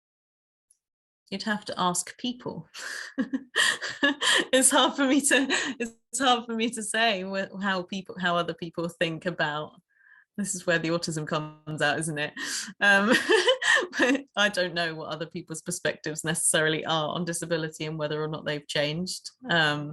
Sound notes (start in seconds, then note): 2.9 giggles